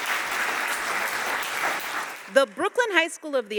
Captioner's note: audience applauding